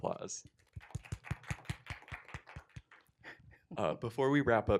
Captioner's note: applause